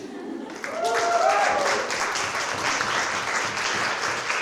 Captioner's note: applause